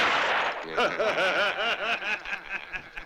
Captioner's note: men laughing